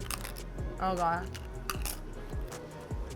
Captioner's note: chip crunches